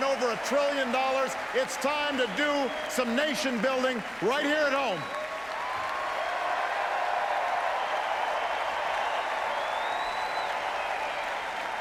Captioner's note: applause